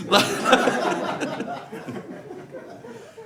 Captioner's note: audience laughs